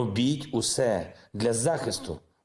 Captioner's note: speaking in foreign language